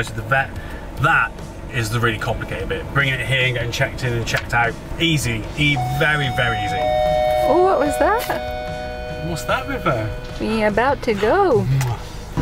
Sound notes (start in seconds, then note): 5.7 announcement tannoy beep